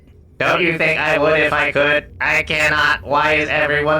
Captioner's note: exasperated, on the verge of tears